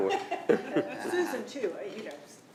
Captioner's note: attendees laughing